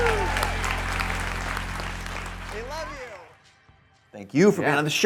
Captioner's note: audience applause